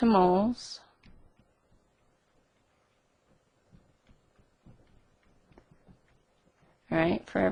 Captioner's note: silence